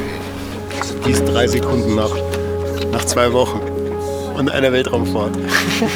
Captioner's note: speaks German